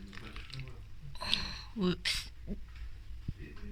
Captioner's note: groans